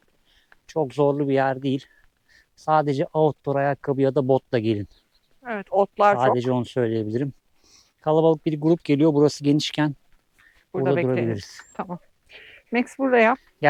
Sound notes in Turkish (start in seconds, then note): 6.1 homurdanır